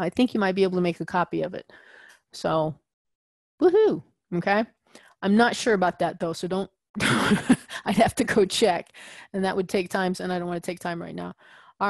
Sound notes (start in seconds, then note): 6.7 laugh